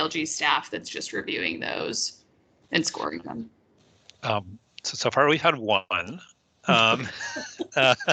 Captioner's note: laughes